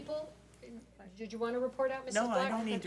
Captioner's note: speaks off mic